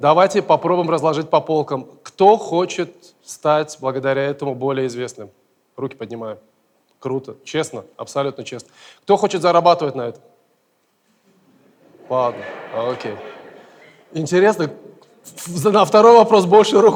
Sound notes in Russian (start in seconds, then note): 11.6 смех